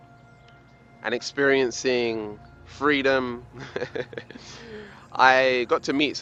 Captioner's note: laughs